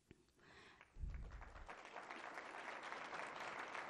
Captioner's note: applause